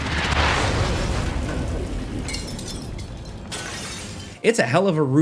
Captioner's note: glass shattering